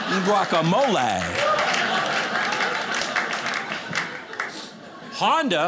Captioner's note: audience laughing